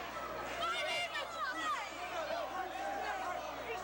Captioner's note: crowd chatter